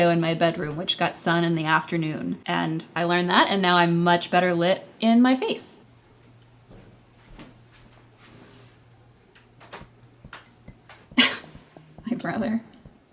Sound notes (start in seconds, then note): 6.6 footsteps; 11.1 giggles